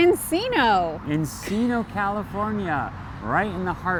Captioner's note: laughs